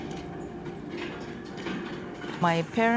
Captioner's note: prayer wheels rattling